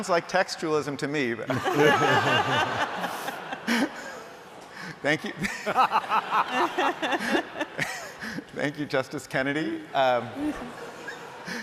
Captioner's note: laughter